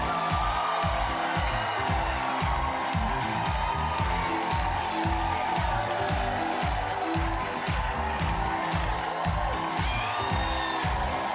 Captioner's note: cheers and applause